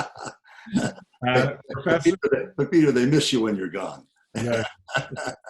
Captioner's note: laughs